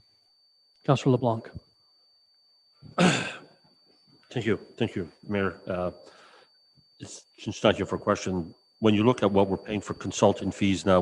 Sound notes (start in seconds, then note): 2.9 clears throat